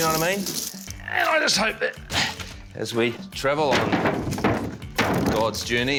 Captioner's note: grunts